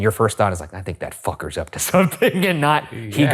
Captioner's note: laughing